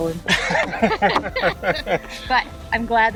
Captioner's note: laughing